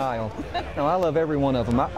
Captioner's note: laughing